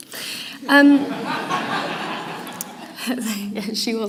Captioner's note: laughter